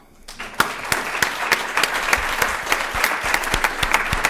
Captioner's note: applause